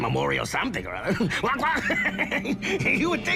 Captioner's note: laughs